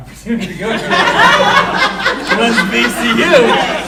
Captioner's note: audience laughing